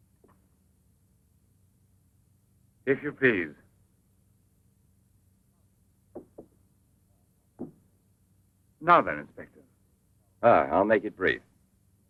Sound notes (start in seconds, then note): none